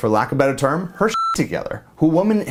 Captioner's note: beep